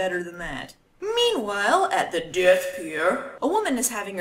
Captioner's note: read dramatically